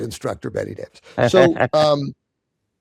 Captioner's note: chuckles